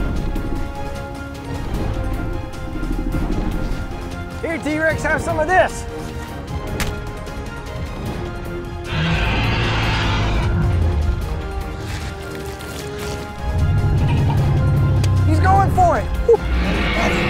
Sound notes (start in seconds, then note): 0.1 T-rex growling; 6.5 intense music; 8.8 T-rex roaring; 13.6 T-rex growling